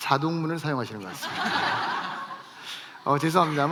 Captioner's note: laughs